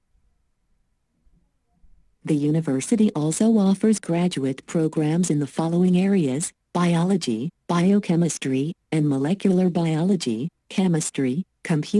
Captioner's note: computer text-to-speech